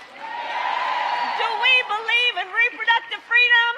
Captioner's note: cheers